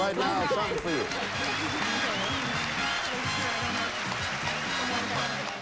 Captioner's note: audience applauding